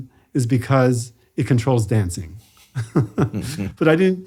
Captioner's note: laughs